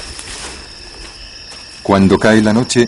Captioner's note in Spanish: gemido